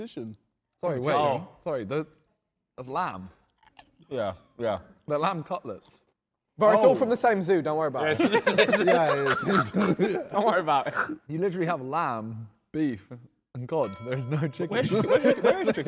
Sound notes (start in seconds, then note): 8.0 men laughing